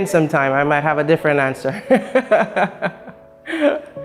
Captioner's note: laughs